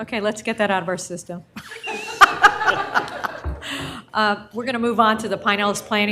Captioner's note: laughter